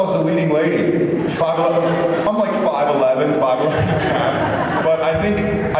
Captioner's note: laughing; laughs